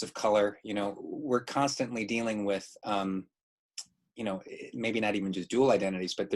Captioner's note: none